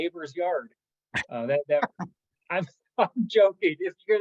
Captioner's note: laugh